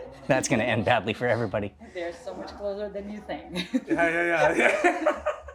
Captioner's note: laughing